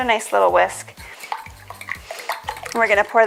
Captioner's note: mixture sloshing